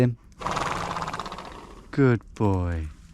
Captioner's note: horse snorting